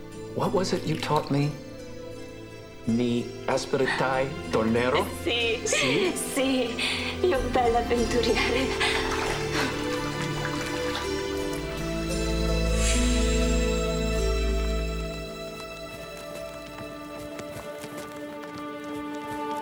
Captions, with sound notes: What was it you taught me? (speaking in foreign language) (passionate music playing)